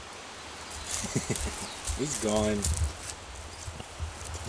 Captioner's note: ha ha